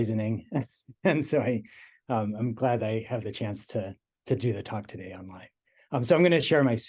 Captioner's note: laugh